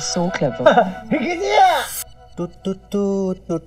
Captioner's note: Cheers